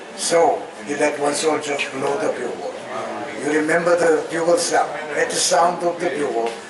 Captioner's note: none